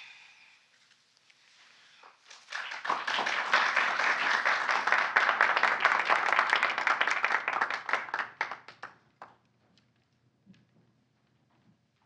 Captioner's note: applause